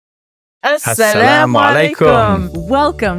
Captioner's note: both speaking in foreign language